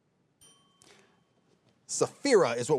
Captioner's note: bell dinging